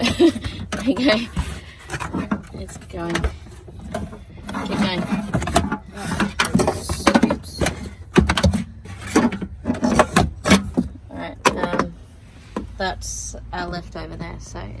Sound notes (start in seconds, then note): 0.0 laughs; 2.4 much clanging and metallic thuds; 7.6 so much clanging